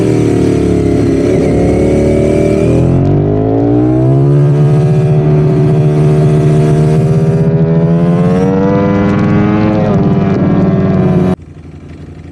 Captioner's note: engine revving